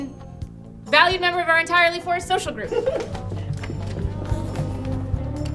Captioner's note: they all giggle